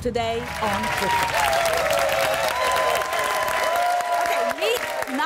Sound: audience applauding

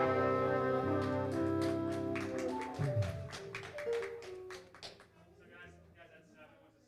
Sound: audience applauding

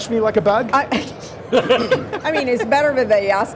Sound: laughing

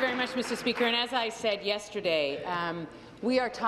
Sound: applause

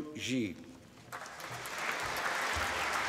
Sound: applause

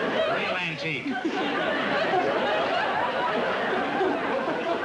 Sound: laughter

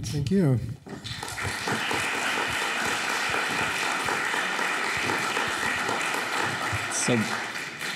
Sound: applause

